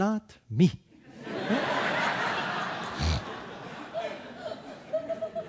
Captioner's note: audience laughing